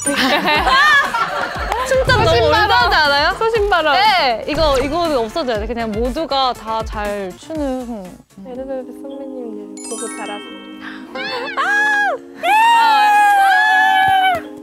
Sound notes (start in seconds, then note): 12.4 screaming by embarrassment